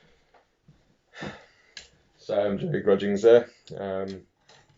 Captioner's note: sighs